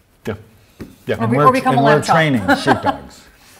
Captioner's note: laughs